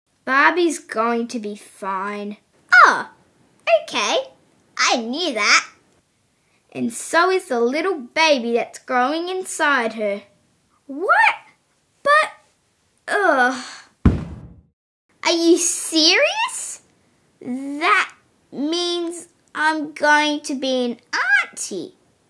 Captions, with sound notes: Barbie's going to be fine Oh...ok! I knew that And so is the little baby that's growing inside her! What? But... Ahh... (Thud!) Are you serious? That... means...I'm going to be an auntie?